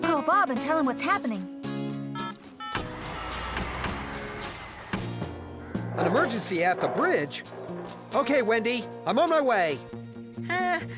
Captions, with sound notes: I'LL CALL BOB AND TELL HIM WHAT'S HAPPENING. ( Phone Dialing ) AN EMERGENCY AT THE BRIDGE! OKAY, WENDY, I'M ON MY WAY!